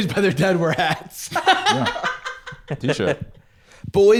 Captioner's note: laughing